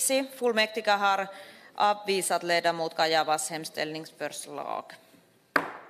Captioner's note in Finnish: nuijan kopautus